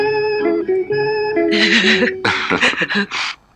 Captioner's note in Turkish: Hıçkırıklar